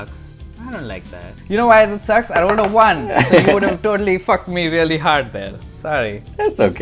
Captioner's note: laughter